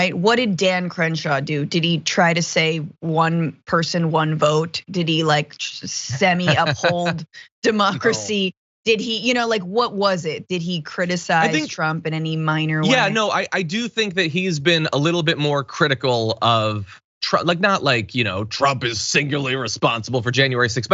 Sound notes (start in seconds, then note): 6.4 laugh